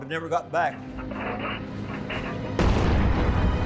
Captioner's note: engine roaring; bomb exploding